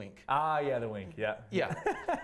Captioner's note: laughs